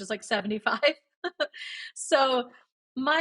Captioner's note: laughs